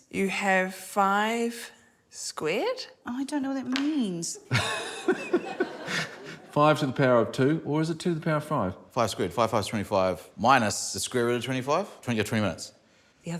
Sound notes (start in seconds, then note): 4.4 laughs